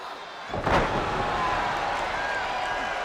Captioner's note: 2 Cold thuds; spectators cheering